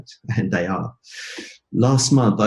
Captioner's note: laughter